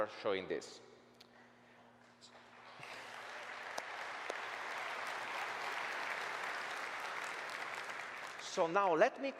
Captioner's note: applause